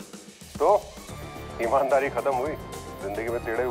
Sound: phone ringing

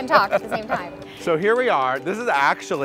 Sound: laughing

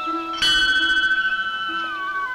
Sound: bell rings

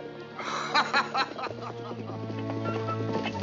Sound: laughs

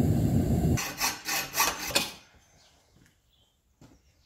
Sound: hacksaw cutting the alloy sounds

